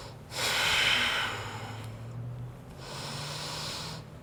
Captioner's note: breathing